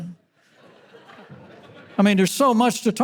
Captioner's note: audience laughter